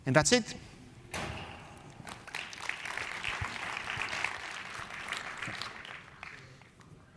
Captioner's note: applause